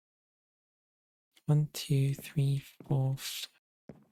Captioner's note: quietly